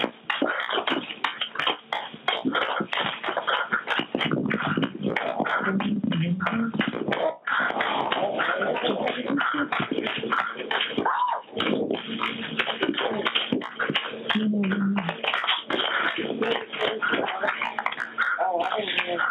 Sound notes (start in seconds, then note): 10.7 loud muffled interference